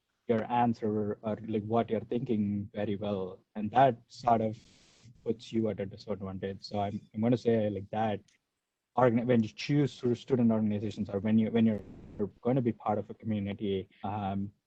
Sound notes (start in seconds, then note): none